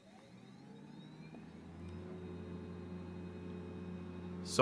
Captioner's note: computer whirring